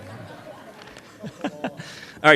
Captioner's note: laughter